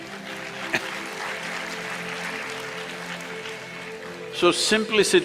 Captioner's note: applause; laughs